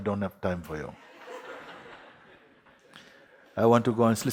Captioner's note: laughter